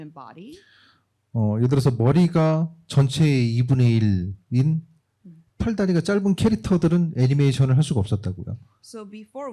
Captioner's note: speaking korean